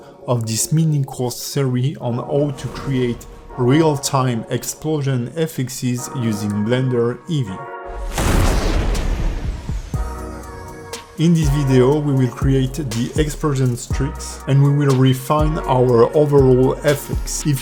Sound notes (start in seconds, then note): 7.9 dramatic exploding